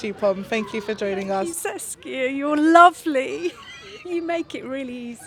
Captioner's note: laughs